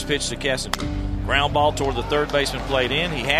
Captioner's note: bat hits ball